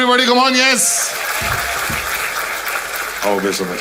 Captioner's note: crowd applauding